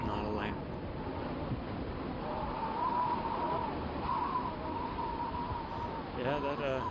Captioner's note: sound of the wind